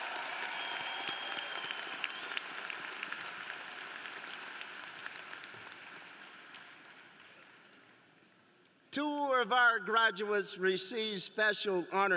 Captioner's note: cheers and applause